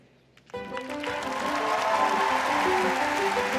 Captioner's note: applause